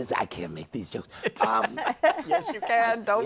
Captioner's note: laughter